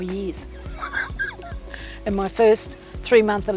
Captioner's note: laughing